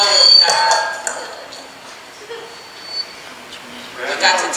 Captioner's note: microphone feedback